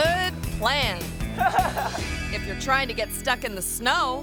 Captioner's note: friend laughs